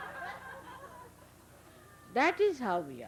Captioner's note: laughter